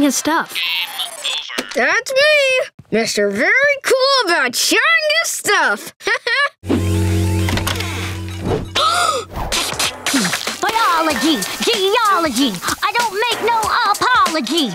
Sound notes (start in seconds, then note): 6.0 laughing; 8.7 gasping